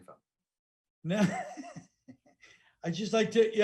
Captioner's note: laughing